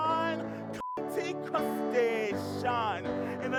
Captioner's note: beep